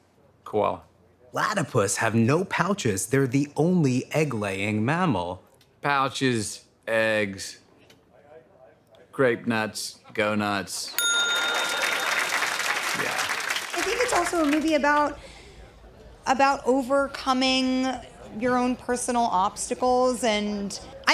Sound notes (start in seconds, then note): 11.0 ding!; 11.3 laughter and applause